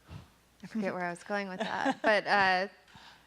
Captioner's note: laughing